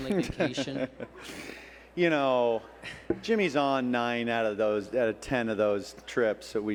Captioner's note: laughs